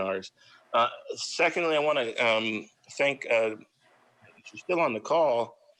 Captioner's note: faintly speaking